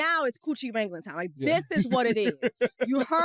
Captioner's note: laughs